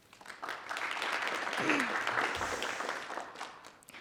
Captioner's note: group applauds